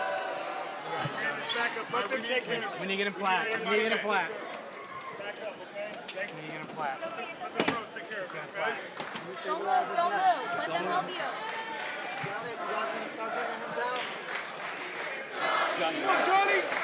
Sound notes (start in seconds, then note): 12.0 crowd chatter; 12.8 crowd cheering